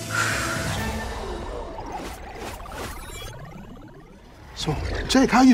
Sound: electronics whirring

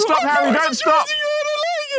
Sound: Harry babbling

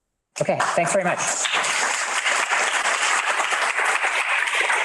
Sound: crowd applauds

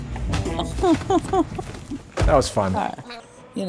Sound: laughs

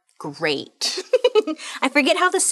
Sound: laughing

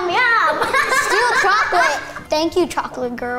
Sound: laughing

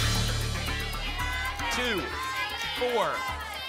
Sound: audience shouting numbers

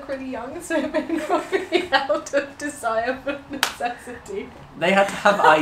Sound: laughs

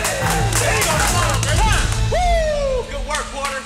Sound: cheers and applause

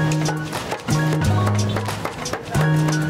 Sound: thudding

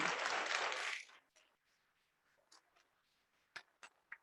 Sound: audience clapping

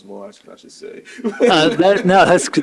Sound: chuckles

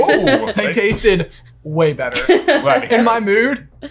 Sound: laughing

